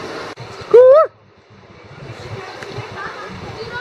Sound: hooting

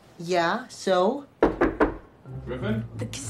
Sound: knocking on door

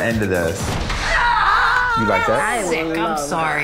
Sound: screaming

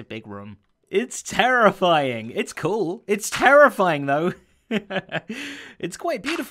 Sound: chuckles

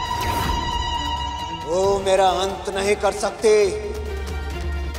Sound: ululating

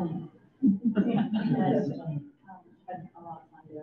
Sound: audience chuckles

